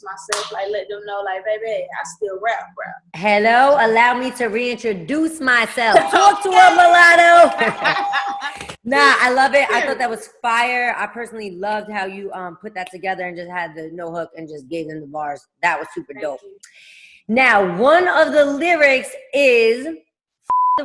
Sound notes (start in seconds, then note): 5.9 ringing; 7.3 laughing